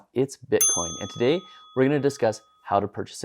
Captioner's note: dinging